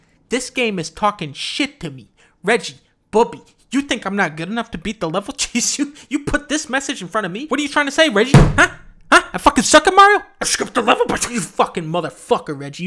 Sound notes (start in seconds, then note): 8.3 slams his desk